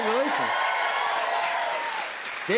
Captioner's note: cheers and applause